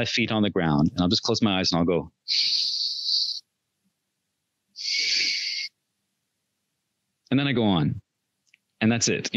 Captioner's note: inhales, exhales